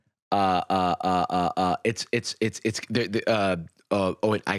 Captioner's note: stammering